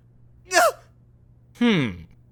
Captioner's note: gasp!